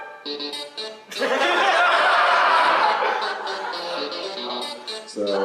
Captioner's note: laughter